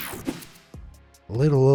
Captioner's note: screen whooshing